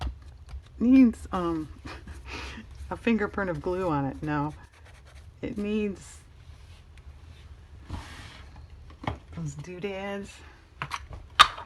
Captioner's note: laughs